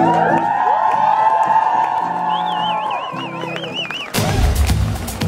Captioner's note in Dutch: applaus